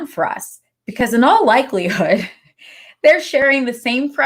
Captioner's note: laughs